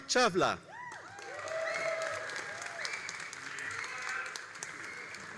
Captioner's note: all applauding and cheering